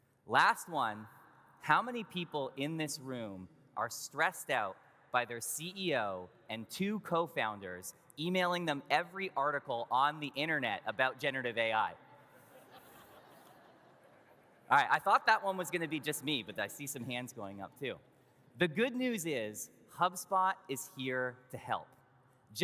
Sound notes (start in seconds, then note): 12.5 audience laughs